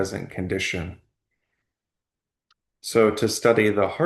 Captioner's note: pause